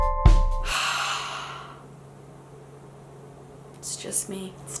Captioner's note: mellow music; exhaling